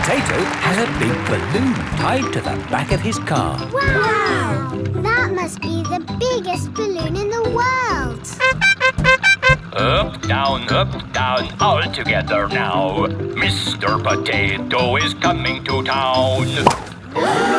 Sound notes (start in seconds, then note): 8.3 horn beeping; 17.1 all gasp